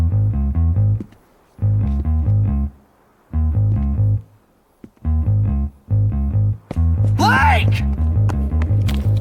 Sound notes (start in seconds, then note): 1.1 footsteps clack